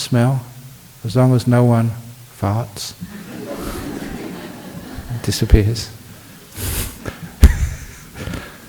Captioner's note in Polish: Laughs